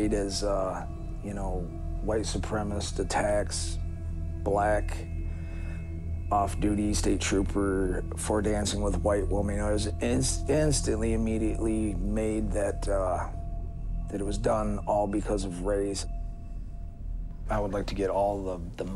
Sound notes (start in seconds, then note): none